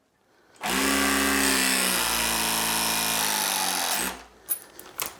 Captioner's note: press gun vibrates loudly